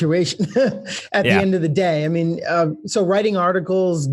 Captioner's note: laughs